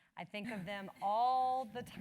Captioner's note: laugh